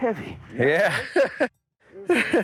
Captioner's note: chuckling